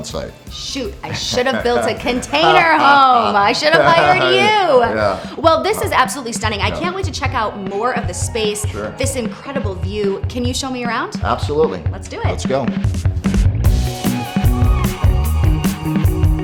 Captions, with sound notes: - Shoot, I should have built a container home! I should have hired you. - (laughs) Yeah. - Well, this is absolutely stunning. I can't wait to check out more of the space. - Sure. - This incredible view, can you show me around? - Absolutely. Let's go. - Let's do it. (upbeat music)